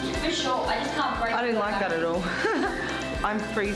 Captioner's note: laughs